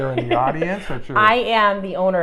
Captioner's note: laughter